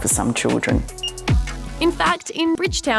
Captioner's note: scanner beeps